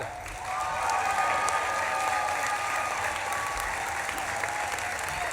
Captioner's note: audience claps and cheers